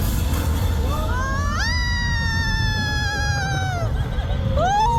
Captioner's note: screaming